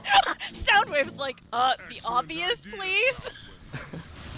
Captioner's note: laughs; laughs